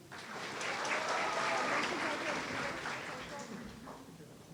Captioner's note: audience cheering